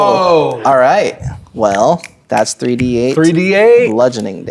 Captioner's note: snapping